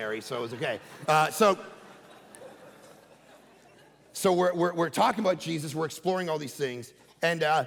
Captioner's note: congregation laughing